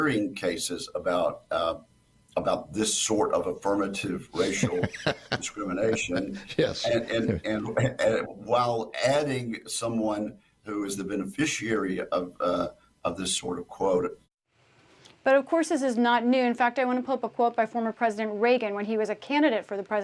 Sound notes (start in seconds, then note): 4.4 laughter